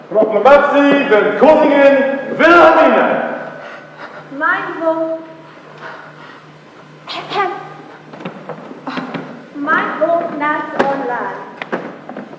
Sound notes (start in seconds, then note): 3.4 heavy breathing; 7.1 clears throat